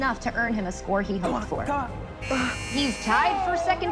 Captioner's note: timer buzzes